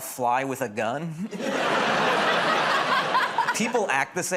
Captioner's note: laughter